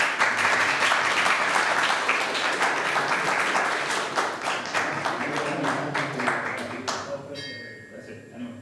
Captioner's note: applause